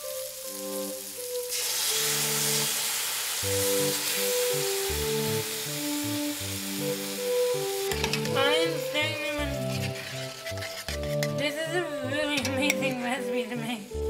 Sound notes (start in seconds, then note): 0.0 sizzle; 1.4 pouring